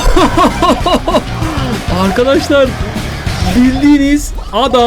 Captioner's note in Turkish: kahkaha